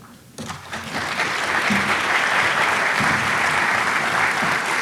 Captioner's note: audience applauding